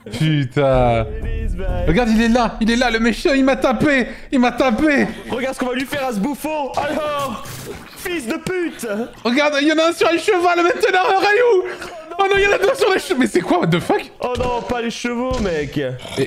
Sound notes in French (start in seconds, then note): 9.1 accent du sud